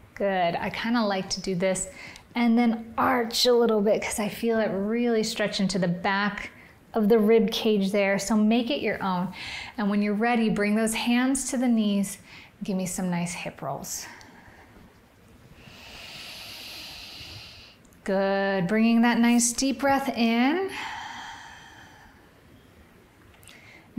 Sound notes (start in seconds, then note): 15.6 inhales; 20.7 exhales